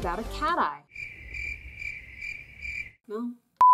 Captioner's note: cricket noises